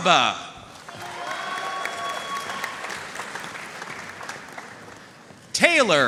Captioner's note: audience cheering and applauding